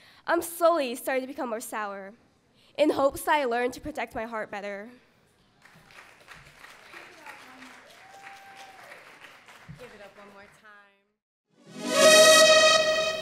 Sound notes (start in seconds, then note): 6.8 audience cheers; 11.6 intense sting